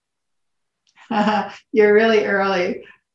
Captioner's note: laughs